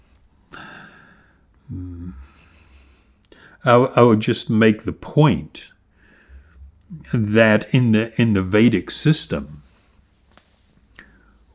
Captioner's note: laughs